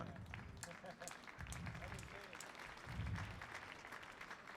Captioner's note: audience applauding